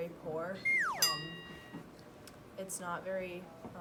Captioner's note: cartoon whistle sound